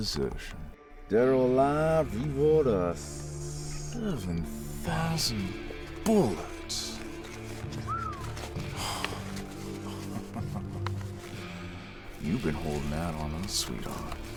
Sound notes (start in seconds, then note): 7.7 whistles; 9.7 chuckles